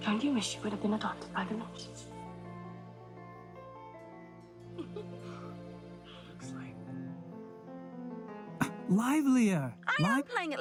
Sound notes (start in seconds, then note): 4.8 laughing